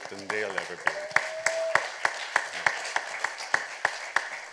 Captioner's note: applause